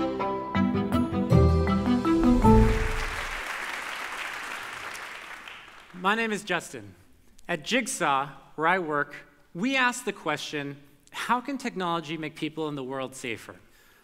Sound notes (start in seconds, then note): 2.2 audience applause